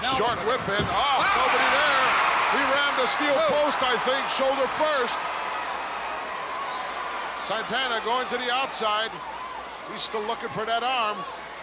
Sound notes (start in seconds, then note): 1.4 audience cheering